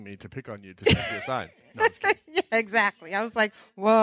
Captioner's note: laughing